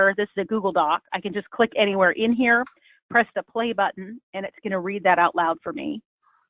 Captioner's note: speaking